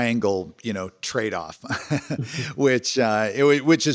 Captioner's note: laughs